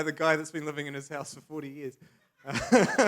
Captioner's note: laughs